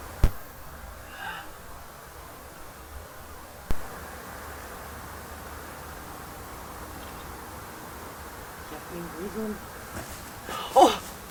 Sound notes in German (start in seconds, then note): 10.4 leiser Aufschrei